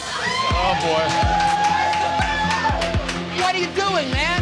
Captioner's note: customers cheering